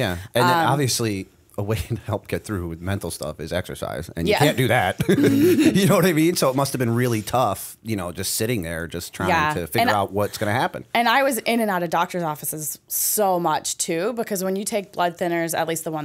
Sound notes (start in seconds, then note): 4.5 laughter